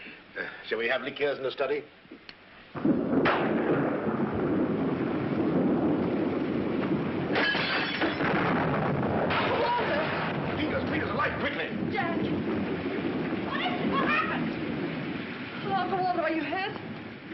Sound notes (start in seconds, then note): 4.2 thunder; 7.3 glass breaking